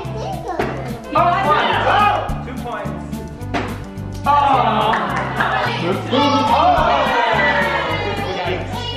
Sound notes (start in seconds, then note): 4.3 group cheers